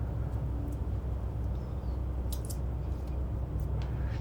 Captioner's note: air conditioner humming continues; mother breathing deeply